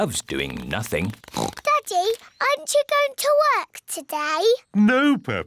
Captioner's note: oinks